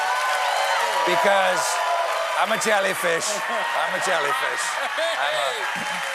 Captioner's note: applause